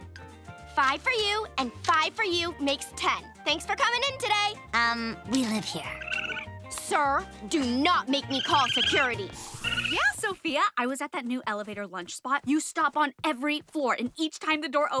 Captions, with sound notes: Five for you, and five for you makes ten. Thanks for coming in today. Um, we live here. [skunk squealing] Sir, do not make me call security. Yeah, Sofia, I was at that new elevator lunch spot. You stop on every floor and each time the door opens